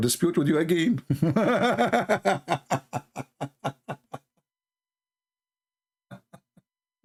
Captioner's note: Ketawa